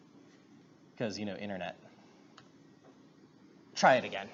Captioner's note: none